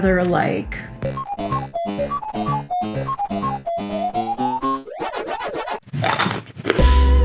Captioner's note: Pac-Man eating pellets sounds; sounds of crunching macadamias